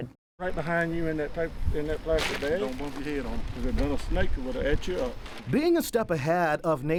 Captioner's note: men talking